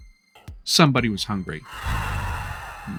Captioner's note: dragon growls